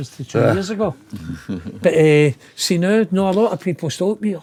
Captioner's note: laughing